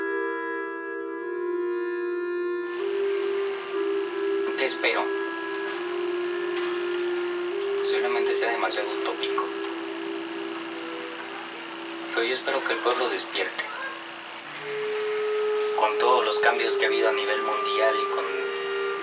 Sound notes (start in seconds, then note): 0.0 dramatic music; 7.9 speaking in Spanish